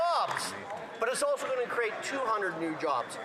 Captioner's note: cheering and Applause